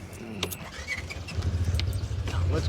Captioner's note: engine starts